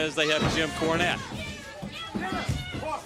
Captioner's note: crowd chatter